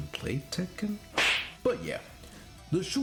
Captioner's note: fish slap